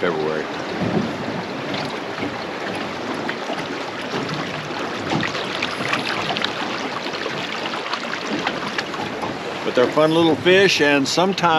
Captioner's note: water flowing